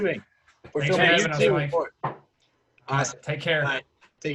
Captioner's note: men chattering